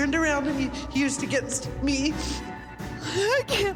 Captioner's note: sniffles; crying